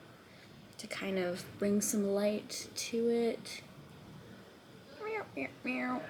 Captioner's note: meowing